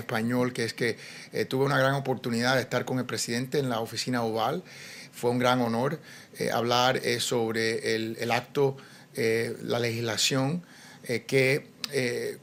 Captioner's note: speaking spanish